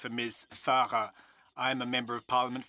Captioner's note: speaking FRENCH